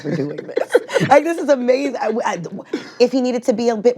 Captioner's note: all laugh